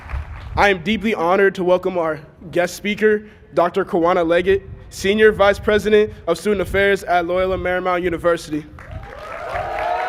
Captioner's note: cheers and applause